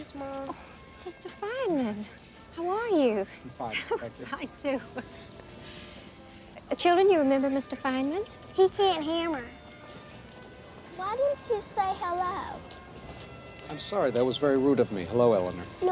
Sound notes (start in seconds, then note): 5.3 laughing